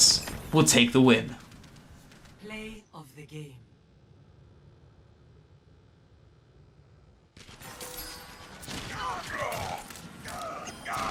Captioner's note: in game sound